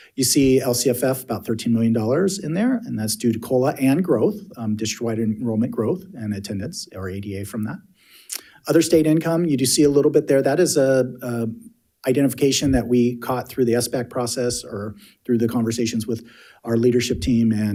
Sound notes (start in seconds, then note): none